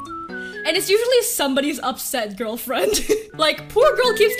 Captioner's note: laughs